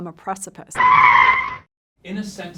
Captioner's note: squealing brakes